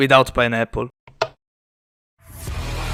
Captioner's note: click